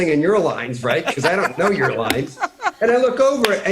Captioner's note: laughter